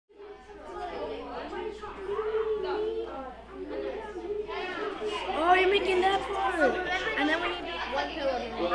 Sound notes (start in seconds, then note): 0.1 children talking